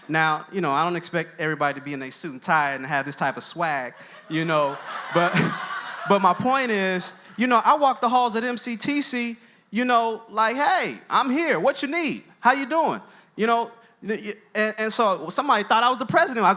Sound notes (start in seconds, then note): 4.7 audience laughs